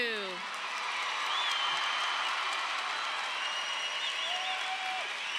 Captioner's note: audience applauding